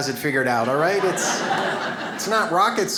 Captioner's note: audience laughs